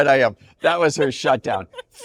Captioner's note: laughter continues